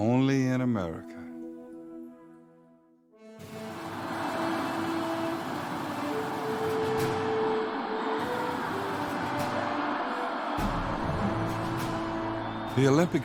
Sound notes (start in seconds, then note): 3.2 triumphant music; 3.4 crowd cheering